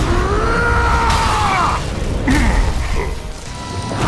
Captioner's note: snarling